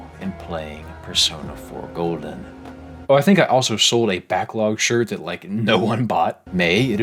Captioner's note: laughing